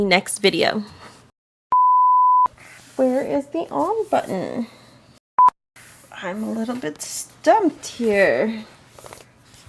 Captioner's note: blooper beep